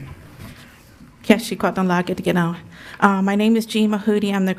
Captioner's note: speaks in a foreign language